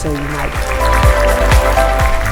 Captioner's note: audience clapping; upbeat music